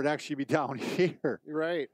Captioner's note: laughing